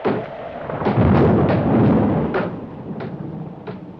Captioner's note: thunder